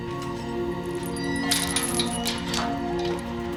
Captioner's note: hinges creaking